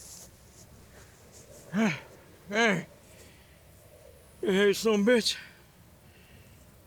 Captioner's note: sighs